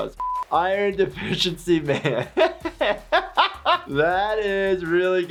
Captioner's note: laughing